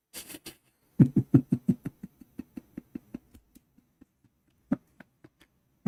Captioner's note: Ketawa